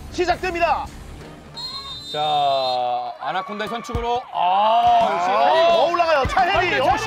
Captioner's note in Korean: 호루라기 소리